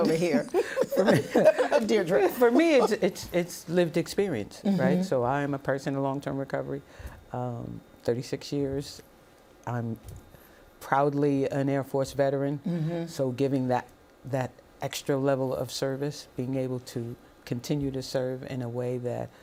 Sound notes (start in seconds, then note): 0.1 laughter